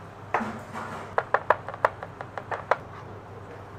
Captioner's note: chopping sounds